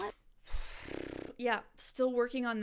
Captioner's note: blowing raspberries